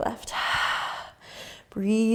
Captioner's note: exhaling